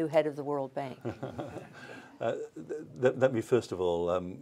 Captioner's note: laughter